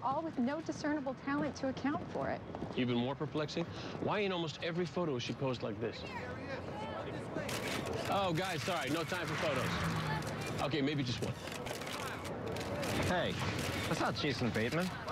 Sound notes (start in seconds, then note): 11.2 camera shutters clicking